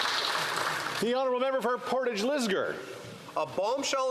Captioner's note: some Applause